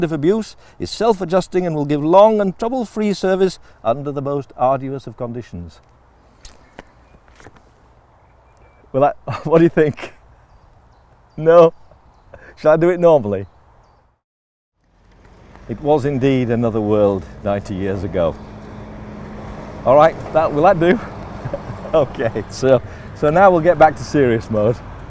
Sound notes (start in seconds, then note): 6.4 laughing; 9.2 camera man is laughing; 9.2 laughing